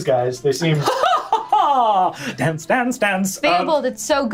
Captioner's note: laughs